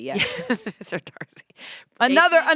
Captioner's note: laughs